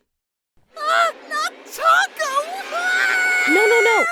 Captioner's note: screams